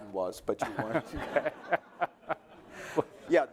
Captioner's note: laughter